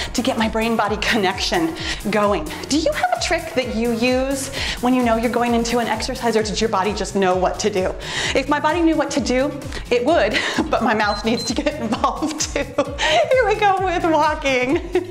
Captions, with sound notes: to get my brain body connection going. Do you have a trick that you use when you know you're going into an exercise or did your body just know what to do? If my body knew what to do, it would, but my mouth needs (timer beeps) to get involved too. Anyway, go with walking.